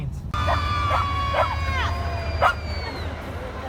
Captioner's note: screaming